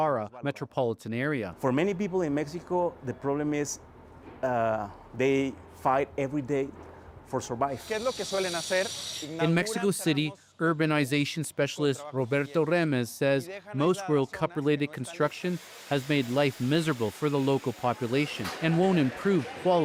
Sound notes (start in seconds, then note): 10.9 speaking alternate language